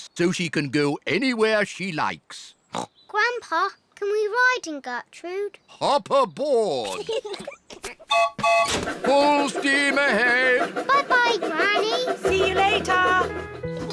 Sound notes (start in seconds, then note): 2.7 snorts; 6.8 piglets giggle; 8.1 toots train whistle